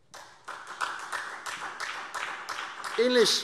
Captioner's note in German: Beifall SPD